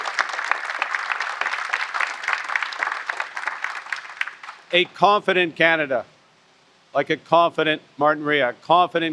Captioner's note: applause